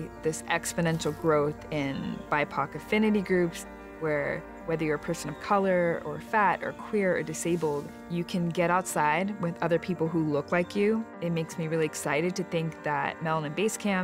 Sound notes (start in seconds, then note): none